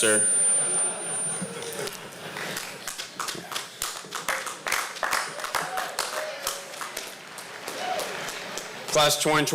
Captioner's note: laughter and applause